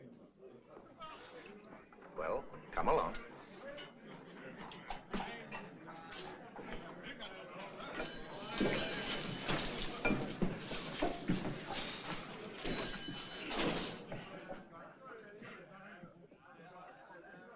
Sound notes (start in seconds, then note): 3.7 hooves Clopping; 8.0 bell Jangles; 12.6 bell Jangles; 13.0 door Closes